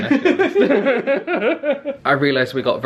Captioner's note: both laugh